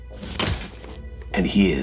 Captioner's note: slams hands